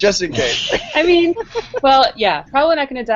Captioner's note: laughter